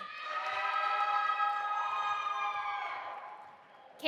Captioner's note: audience applauding and cheering